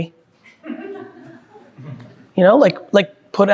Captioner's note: group laughing